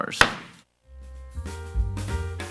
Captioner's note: hammer slamming; cheerful jazz music